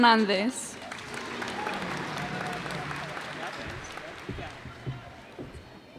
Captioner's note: cheers and applause